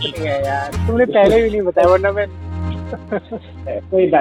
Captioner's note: laughing